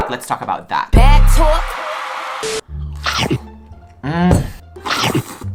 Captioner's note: slurping noise